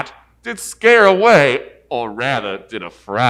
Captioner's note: none